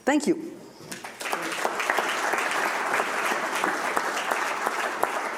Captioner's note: audience applauding